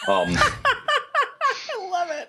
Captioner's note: laughter